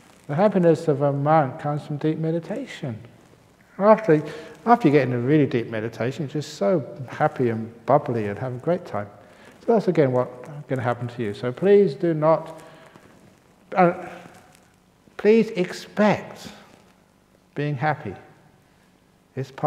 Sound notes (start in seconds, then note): none